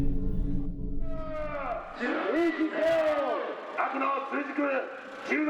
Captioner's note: shouting in Japanese